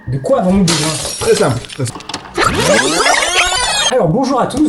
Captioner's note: VHS rewind sound